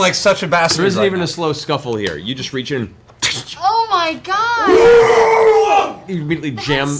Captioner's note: wet ripping noise, pained scream